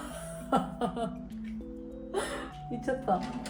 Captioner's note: laughs